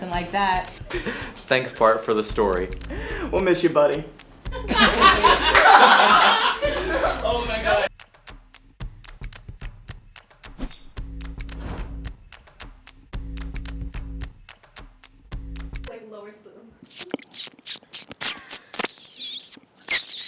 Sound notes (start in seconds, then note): 4.4 laughs